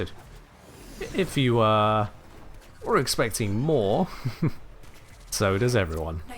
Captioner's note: chuckles